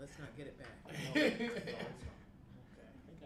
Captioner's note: laughter